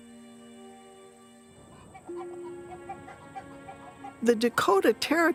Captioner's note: chickens clucking